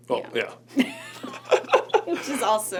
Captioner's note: both laugh